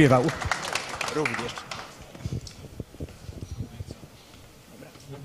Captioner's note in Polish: oklaski